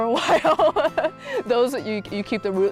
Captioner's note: laughs